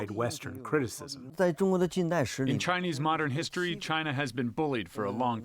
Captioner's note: through translator